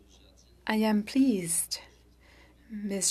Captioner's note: speaking French